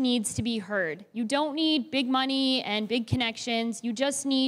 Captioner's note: none